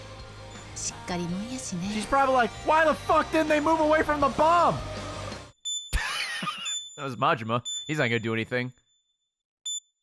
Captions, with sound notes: She's probably like, why the frick didn't they move away from the bomb? (laughs) There's Majima. He's not gonna do anything.